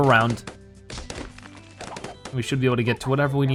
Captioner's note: balloons popping